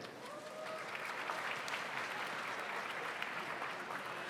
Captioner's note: audience applauds